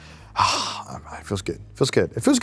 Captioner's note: sighs